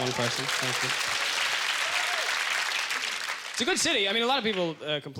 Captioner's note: applause